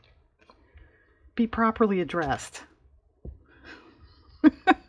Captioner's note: laughs